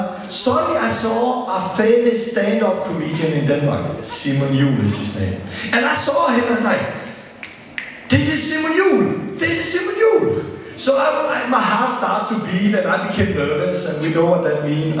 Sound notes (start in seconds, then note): 7.5 click,click